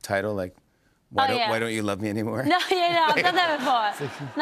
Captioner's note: laughs